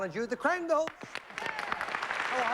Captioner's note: applause